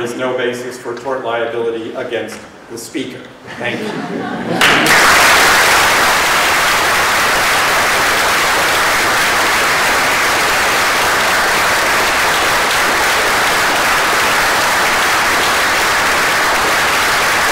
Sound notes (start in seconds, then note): 3.5 laughter